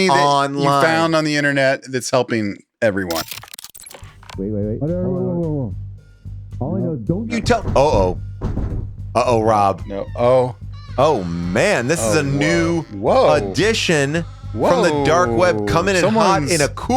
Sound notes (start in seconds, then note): 3.5 transition clacks; 7.3 door thuds; 11.0 door creaks